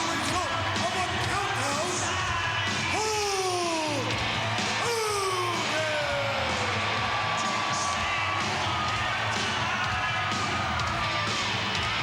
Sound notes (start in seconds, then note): 5.6 crowd cheers; 8.8 upbeat rock music